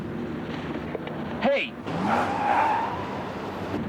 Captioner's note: skidding